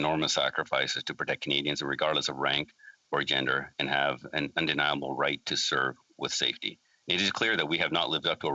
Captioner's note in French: voix de l'interprète